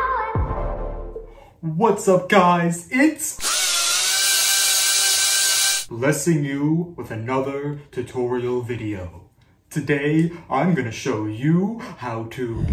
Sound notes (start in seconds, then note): 3.4 electric screwdriver; 12.5 faint breathing